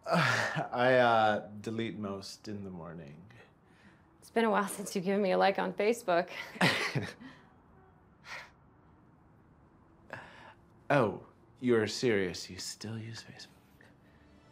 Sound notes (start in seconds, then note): 0.4 chuckles; 6.5 Max laughs; 8.2 Maggie chuckles